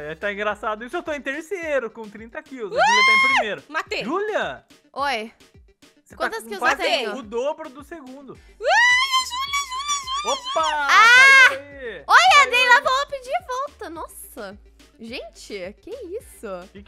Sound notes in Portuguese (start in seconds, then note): 8.6 grita